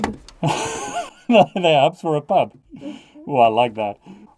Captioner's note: man laughing